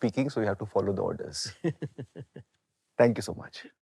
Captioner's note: laughs